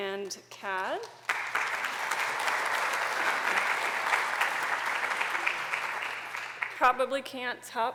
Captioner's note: applause